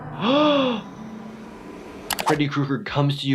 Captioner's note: gasps